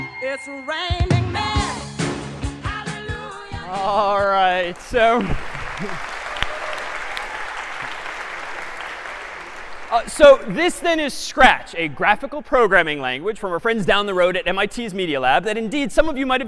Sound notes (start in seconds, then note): 4.5 applause; 4.7 chuckles